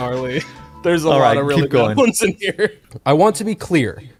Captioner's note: laughs